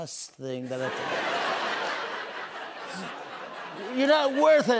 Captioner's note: laughter